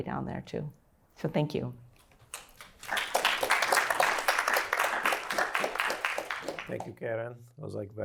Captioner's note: applause